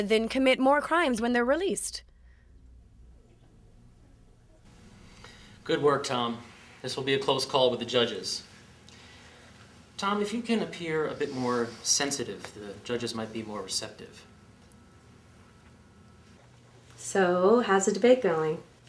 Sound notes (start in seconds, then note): none